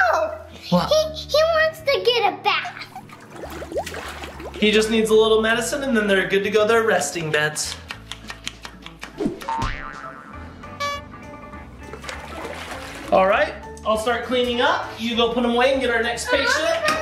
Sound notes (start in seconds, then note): 9.4 spring noises